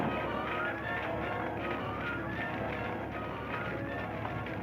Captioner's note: explosion booms; fire crackling